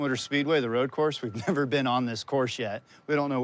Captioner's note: chuckling